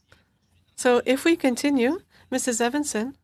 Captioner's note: speaking French